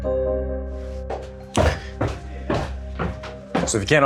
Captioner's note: footsteps tapping